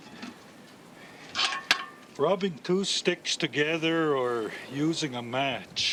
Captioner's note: laughs